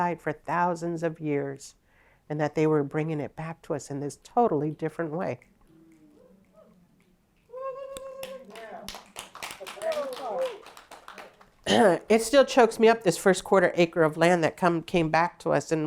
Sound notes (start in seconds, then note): 8.2 applause